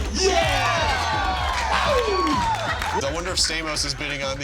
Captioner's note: cheers and applause